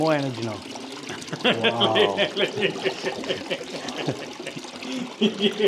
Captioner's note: laughing